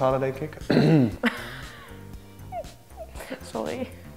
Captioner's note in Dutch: lacht schuldbewust